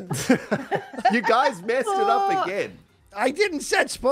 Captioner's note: group laughs